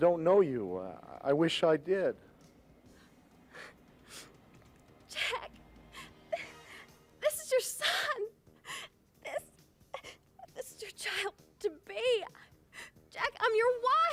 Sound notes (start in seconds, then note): none